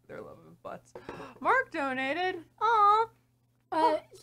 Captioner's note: gasp